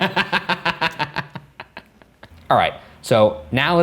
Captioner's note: laughing